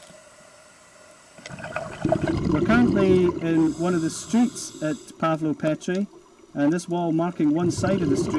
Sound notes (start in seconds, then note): 1.4 diving noise